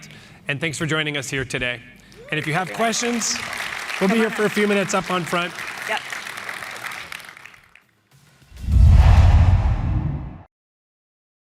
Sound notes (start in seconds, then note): 2.1 applause